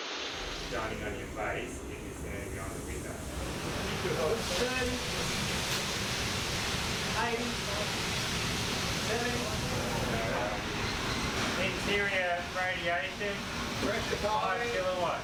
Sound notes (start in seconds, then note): 3.6 sounds of a fire crackling and roaring can be heard